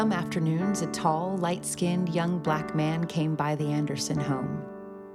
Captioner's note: none